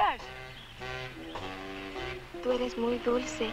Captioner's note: soft instrumental music; Mango speaking in Spanish